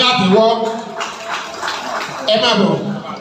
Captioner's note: applauds